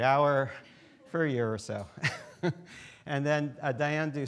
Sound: laughs

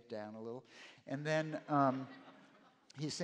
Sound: laughter

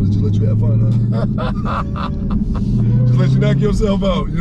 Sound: both laughing

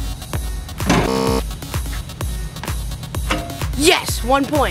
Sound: buzzing

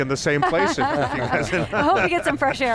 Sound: laughing

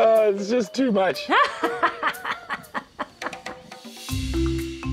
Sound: laughs

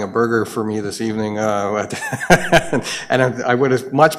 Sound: laughs

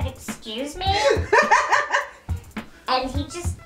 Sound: laughs

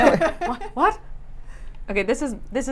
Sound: laughs

